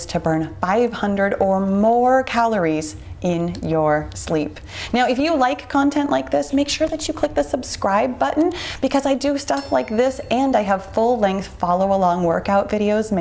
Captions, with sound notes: to burn 500 or more calories in your sleep. Now, if you like content like this, make sure that you click the subscribe button (computer mouse clicks) because I do stuff like this (bell rings) and I have full-length follow-along workout videos